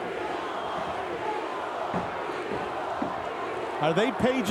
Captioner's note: crowd chanting